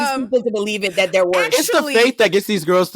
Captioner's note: laughing